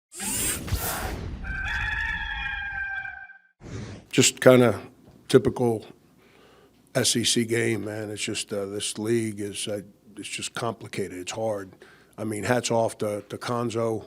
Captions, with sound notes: (logo whoosing) (rooster crows) - Just kind of typical SEC game, man. It's just this league, it's just complicated. It's hard. I mean, hats off to Cuonzo.